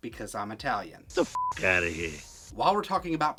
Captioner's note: beep